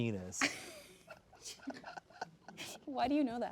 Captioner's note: laughing